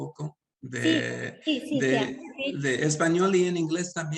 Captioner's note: speaking Spanish; Sandra speaking Spanish; speaking Spanish